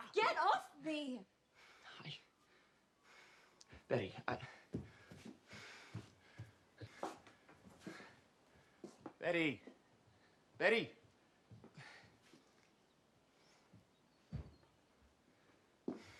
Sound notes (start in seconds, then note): 12.3 birds chirping